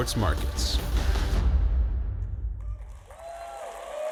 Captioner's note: clapping